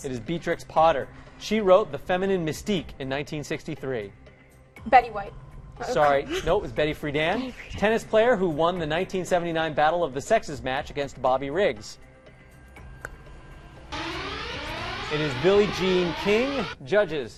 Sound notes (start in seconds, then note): 13.5 alarm